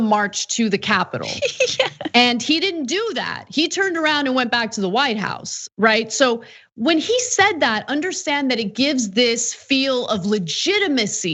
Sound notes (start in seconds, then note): 1.2 laugh